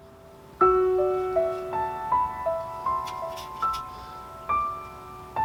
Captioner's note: bristles rustle softly under music